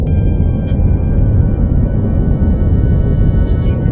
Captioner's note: stars whooshing